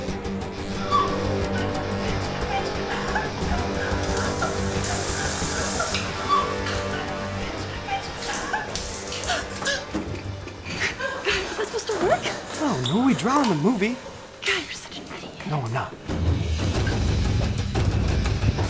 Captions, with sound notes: (crying) Was that supposed to work? I don’t know, he drowned in the movie. God you’re such an idiot. No I’m not! (dramatic music)